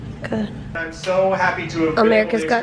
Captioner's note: tv in background